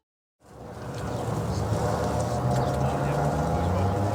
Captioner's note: car engines roaring